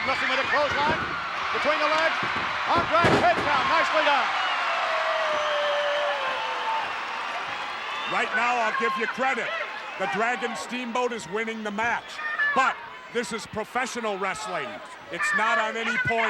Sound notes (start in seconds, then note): 3.7 applause